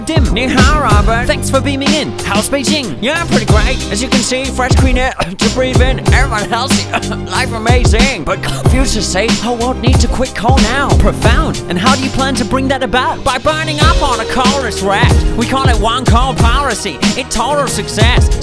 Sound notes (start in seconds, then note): 5.1 cough; 6.5 cough cough